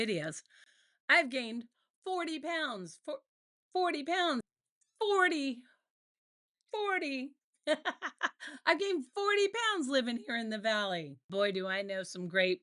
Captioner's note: laughter